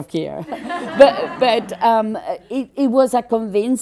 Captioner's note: general laughter